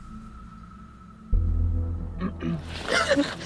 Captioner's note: clears throat